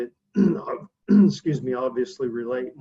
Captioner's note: clears throat